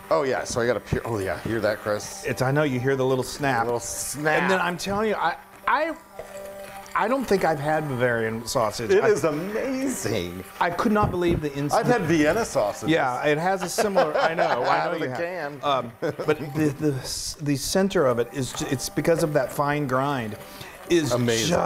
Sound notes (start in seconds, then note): 13.7 laugh